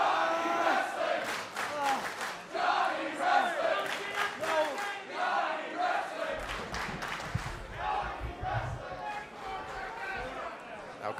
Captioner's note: crowd cheering